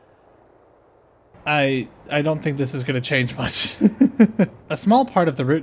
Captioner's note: laughter